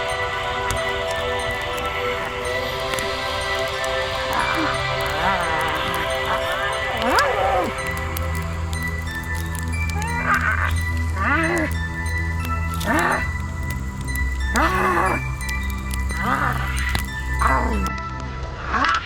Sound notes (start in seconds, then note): 0.2 mysterious music continues; 4.2 person grunting